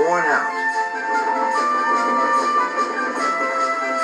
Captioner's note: Gordon's Whistle Blows